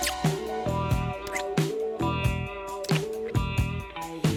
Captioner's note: kissing sounds